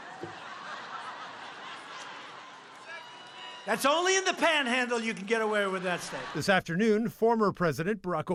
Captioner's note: laughter